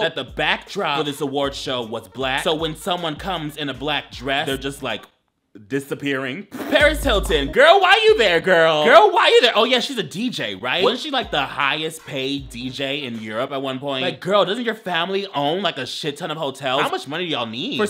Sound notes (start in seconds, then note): 6.1 laughing